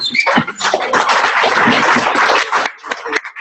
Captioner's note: clapping